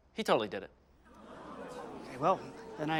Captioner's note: audience whispering